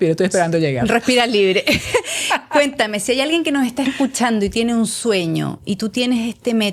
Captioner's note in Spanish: risas